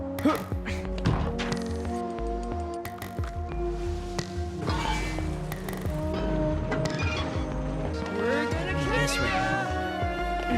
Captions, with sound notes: (GRUNTS) (METAL SCRAPES AND SQUEAKS) We're gonna catch ya!